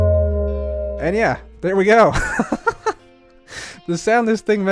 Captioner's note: laughs